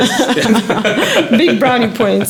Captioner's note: laughing